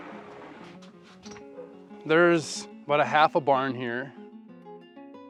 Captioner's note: door creaks